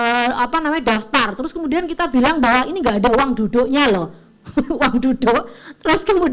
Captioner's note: laugh